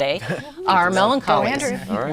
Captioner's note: laughing